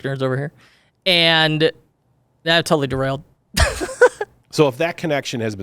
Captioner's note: laughs